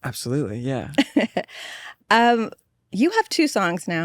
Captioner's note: laughs